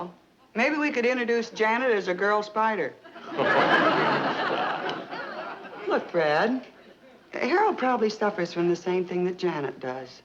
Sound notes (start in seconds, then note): 3.1 audience laughing